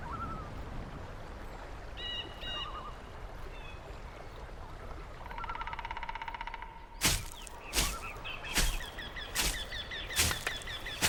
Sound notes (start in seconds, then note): 0.0 wind blowing; 7.0 thud